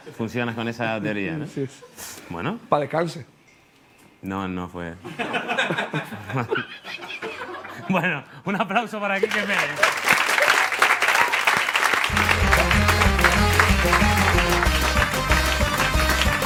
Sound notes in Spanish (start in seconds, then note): 5.0 Risas; 5.1 público ríe; 9.1 Aplausos